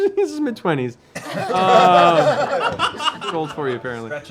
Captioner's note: laughter